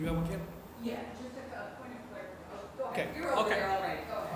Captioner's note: chatter